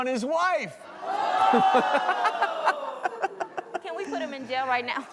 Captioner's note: audience groans; laughs